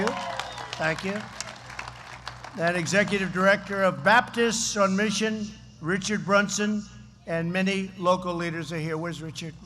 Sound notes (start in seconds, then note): 0.0 applause